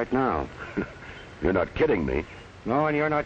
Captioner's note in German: lacht